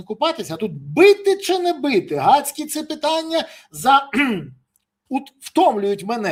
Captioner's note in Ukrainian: прочищення горла